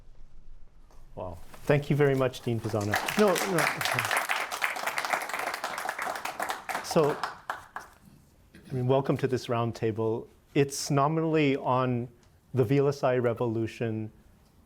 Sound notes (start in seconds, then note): 1.4 applause